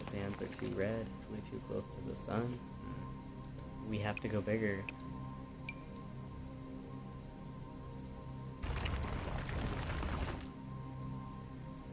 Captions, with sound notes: Bands are too red. Flew too close to the sun. We have to go bigger. [gravel sounds]